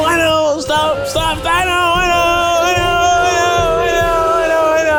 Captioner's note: chorus of boos offscreen